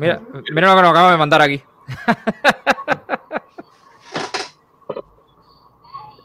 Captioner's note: laughs